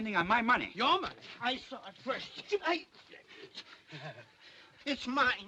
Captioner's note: sounds of struggling